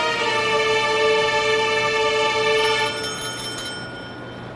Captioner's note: bell ringing